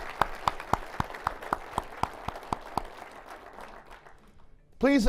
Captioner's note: applause